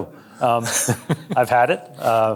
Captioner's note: chuckling